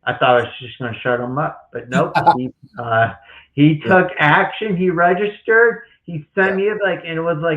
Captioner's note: laughs